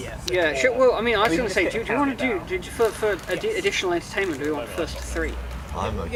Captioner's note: stumbles over words